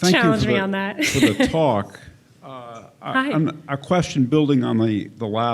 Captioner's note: laughs